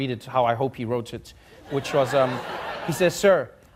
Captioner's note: audience laughing